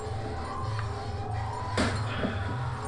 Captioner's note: heavy breathing